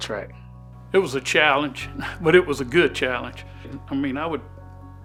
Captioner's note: laughs